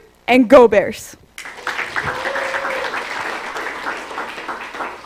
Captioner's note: applause